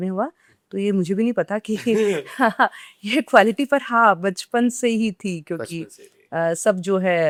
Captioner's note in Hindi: हंसी